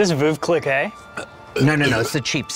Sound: burping

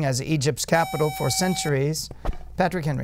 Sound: buzzer

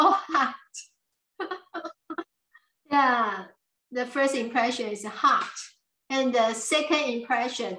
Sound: laughs

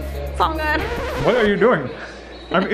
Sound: tape rewinds

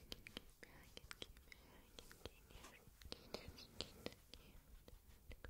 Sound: soft and tenderly

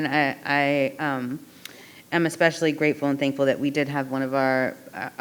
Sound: none

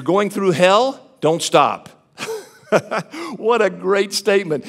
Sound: laughs

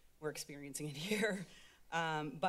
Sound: laughs

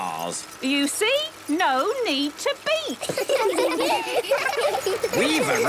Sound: laughter

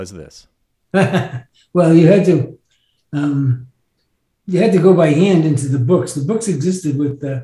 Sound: chuckles

